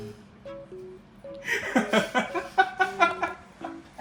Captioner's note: laughs